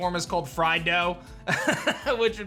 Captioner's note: chuckles